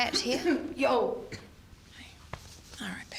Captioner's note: coughing